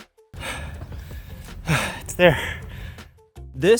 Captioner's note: panting